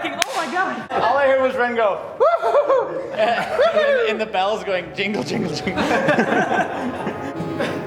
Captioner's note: whooping; laughter; more Laughter